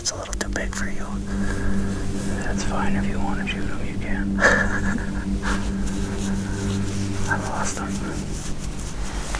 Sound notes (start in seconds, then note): 4.2 man laughs